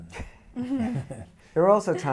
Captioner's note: laughing